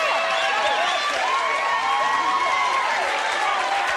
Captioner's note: applause